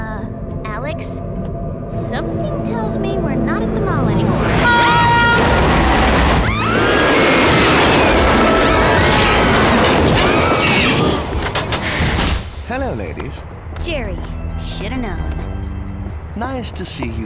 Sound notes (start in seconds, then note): 4.4 loud honk; 4.4 screaming